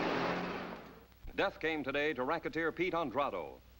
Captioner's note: voiceover